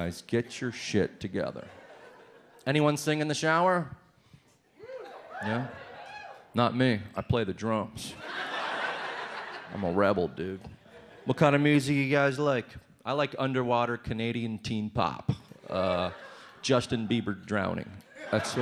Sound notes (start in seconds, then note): 4.8 some people cheer; 8.1 audience laughs